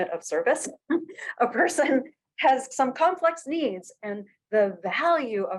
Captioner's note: laughter